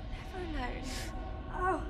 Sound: Isaac gasps

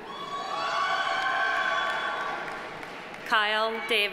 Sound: audience cheering; audience applauding

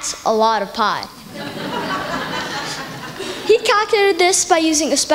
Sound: laughter

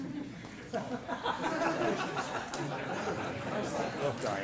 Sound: laughter

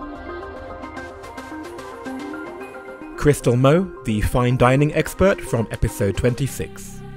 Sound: voiceover

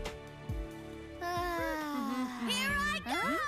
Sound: Dan humming

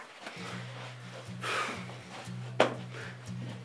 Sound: big sigh

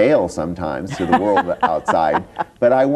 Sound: laughs

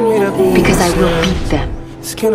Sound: air distorts

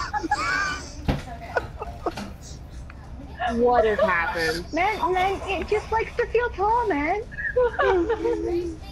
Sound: everyone laughing, bang on table

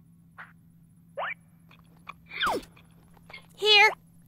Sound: munching

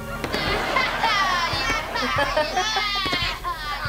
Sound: laughing

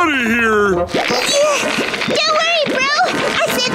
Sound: grunting

